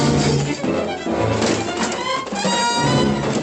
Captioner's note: blow